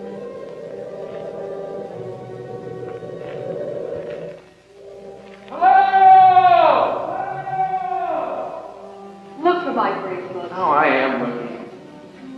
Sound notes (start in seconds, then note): 4.9 echoing